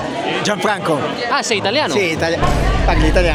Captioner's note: Italian